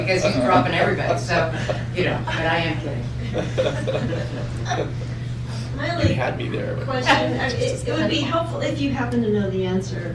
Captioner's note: laughter